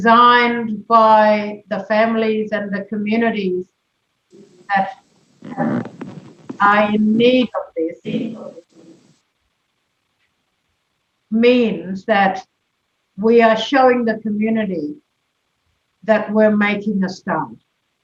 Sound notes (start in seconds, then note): 6.8 audio distorted